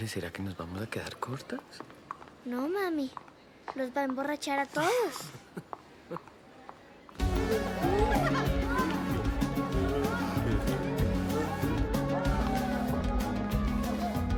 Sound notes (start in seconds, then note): 7.2 people laughing; 7.2 dance music